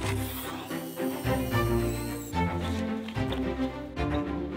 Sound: saw buzzing; adventurous music

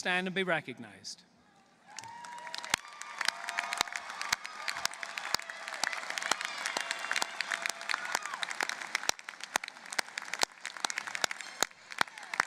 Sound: applause

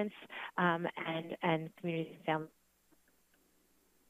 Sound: static

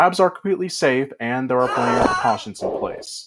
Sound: intern screams

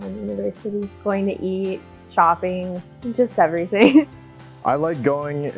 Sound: laughs

